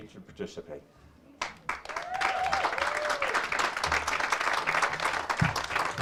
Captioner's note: audience cheers and applauds